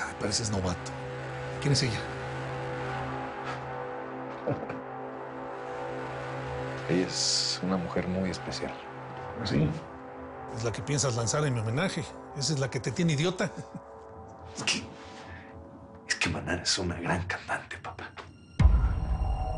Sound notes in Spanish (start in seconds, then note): 4.3 Risas